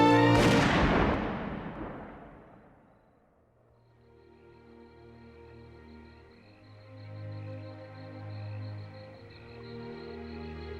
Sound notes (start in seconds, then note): 0.0 gunshot; 3.6 crickets chirping